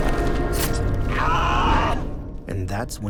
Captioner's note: screaming